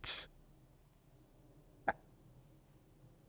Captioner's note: pauses 6 seconds